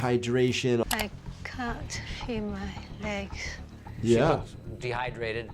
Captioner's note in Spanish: clic del mouse